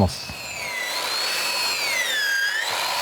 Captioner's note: whirring